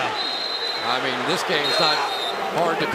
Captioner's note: whistle